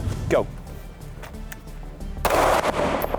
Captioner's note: shoots gun; clicking; shoots gun